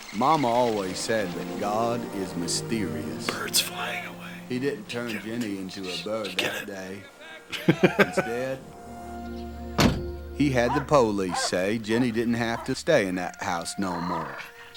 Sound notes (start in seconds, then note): 3.6 whispers